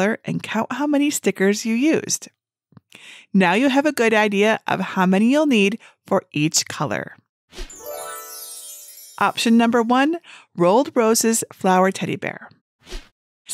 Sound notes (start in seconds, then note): 7.7 chimes ringing